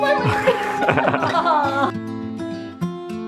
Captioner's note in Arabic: يضحك; موسيقى الغيتار الناعمة